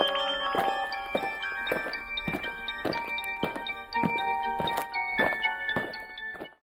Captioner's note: eerie music; aliens marching